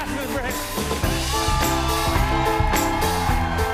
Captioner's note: applause